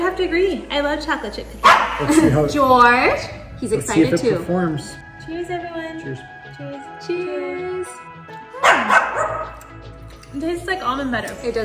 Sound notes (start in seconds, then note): 1.6 dog barks; 8.5 dog barks; 9.5 group lips smack